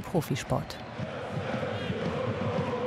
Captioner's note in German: Gedämpfte Jubelrufe